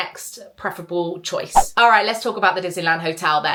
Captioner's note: screen fwipping